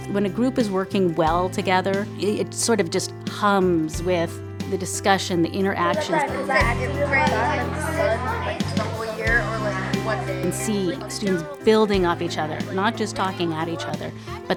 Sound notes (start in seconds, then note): 6.4 students talking